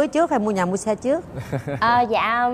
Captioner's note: chuckles